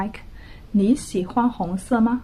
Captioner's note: speaking Mandarin